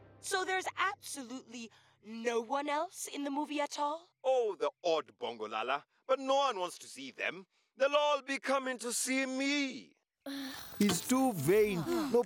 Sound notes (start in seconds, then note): 10.3 long sighs; 10.3 exhales